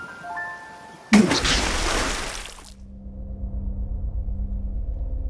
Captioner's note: splash